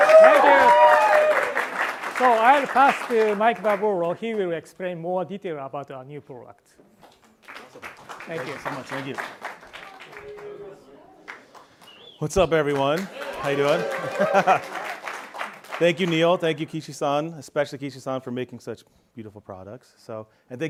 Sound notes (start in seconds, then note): 13.0 laughs